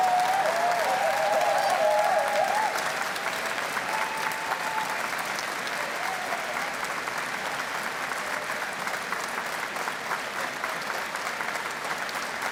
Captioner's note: cheers and Applause